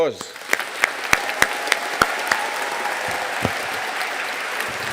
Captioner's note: audience cheering and applauding